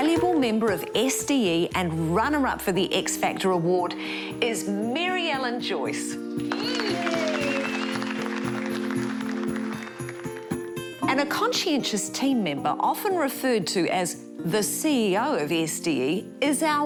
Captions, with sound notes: The valuable member of SDE and runner-up for the X Factor Award is Mary-Ellen Joyce. Yeah! (CHEERS AND APPLAUSE) And a conscientious team member often referred to as the CEO of SDE